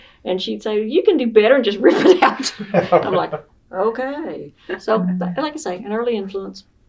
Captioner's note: laughter